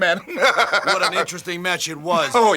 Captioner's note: Jim chuckling